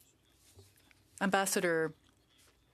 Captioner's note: speaking French